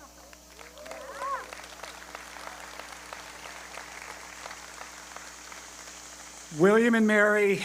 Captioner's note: applause